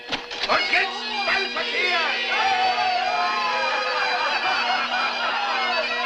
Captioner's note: men whooping